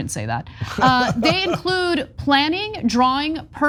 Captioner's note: laugh